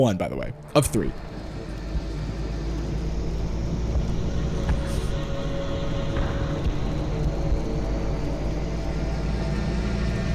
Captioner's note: disorienting ambient noise plays throughout this entire clip